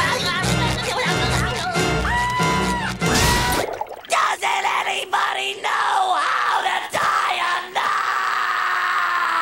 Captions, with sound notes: [screaming] Doesn't anybody know how to tie a knot?!